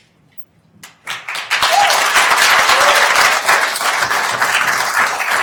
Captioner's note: attendees applauding